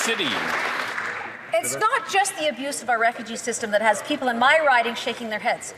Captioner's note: some Applause